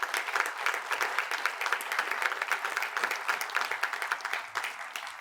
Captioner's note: attendees applaud